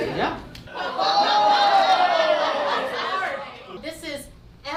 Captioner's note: audience groaning